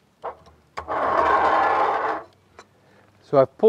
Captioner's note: metal on stone scratching